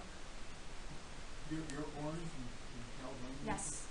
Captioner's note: man speaking